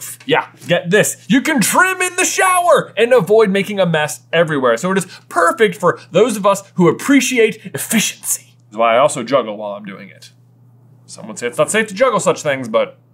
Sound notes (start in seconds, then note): none